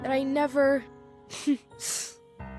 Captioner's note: chuckles